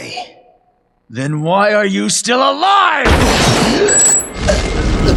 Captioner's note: gunshot